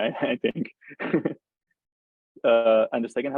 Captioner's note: laughs